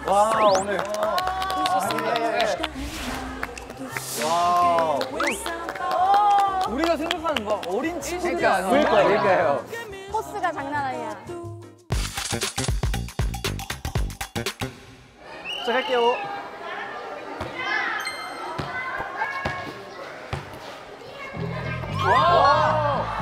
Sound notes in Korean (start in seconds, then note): 5.1 주눅 든 박수